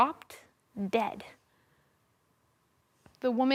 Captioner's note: silence